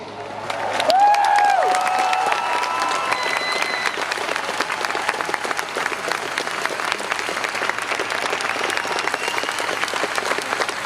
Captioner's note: applause